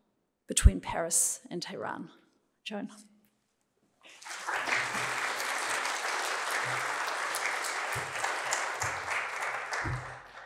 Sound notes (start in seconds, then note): 4.0 applause